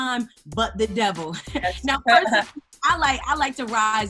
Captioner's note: laughs